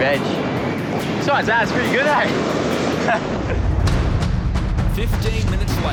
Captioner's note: laughs